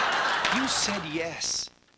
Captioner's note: laughing